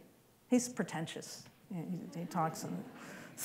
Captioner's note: laughter